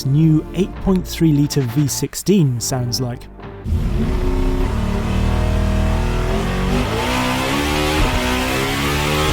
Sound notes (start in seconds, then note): 3.6 engine deeply revving